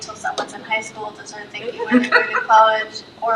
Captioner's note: trustees laughs